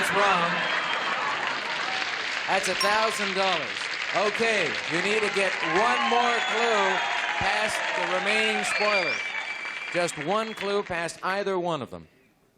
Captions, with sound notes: Sit on it, Dr. Greenberg. That's wrong. [chuckling] [applause] That's $1,000. OK, you need to get one more clue past the remaining Spoiler, just one